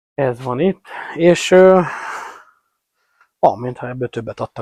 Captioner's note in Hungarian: sóhajtás